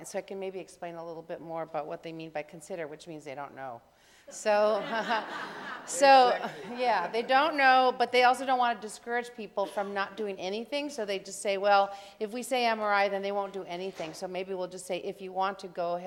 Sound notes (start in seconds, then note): 4.5 laughter